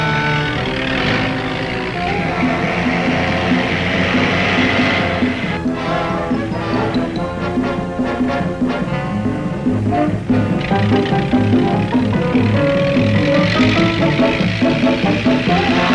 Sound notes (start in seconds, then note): 0.1 dramatic music; 2.7 car engine revving; 8.4 dramatic music; 11.3 car engine revving